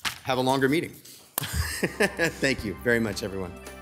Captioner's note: laughs